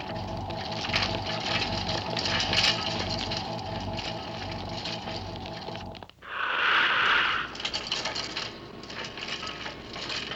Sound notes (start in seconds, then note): 0.0 clanking; 6.2 whooshing